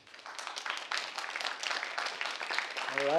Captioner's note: audience claps